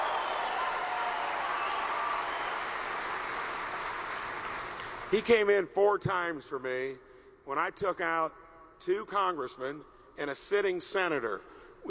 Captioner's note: applause